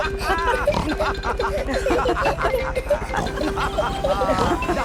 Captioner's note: all laughing and snorting